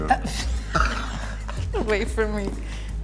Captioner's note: both laughing